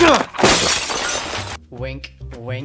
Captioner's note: glass shattering